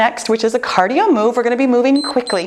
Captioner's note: timer beeps